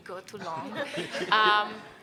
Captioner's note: panelists chuckle